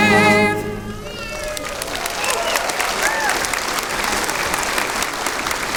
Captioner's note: applause